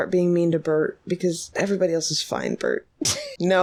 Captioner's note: laughs